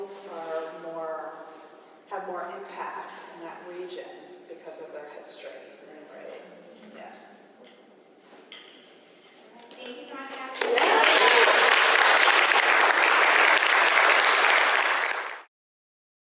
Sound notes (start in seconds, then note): 10.2 applausee